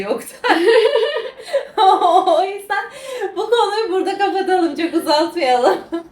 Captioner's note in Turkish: kahkaha